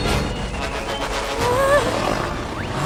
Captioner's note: static crackling; Pomni whimpers